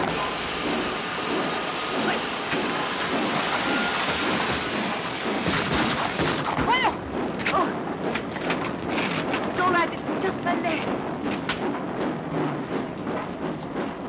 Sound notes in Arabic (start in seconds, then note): 0.1 صوت القطار وهسهسة البخار; 4.1 اطلاق نار; 6.6 يصرخ; 7.5 صوت القطار; 11.6 صوت القطار